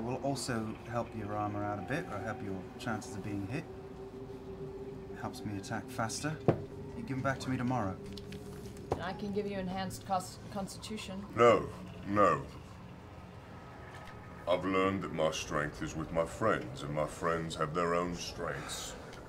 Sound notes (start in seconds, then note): none